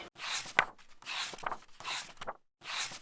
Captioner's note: pages turning